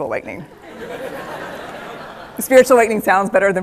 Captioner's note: laughter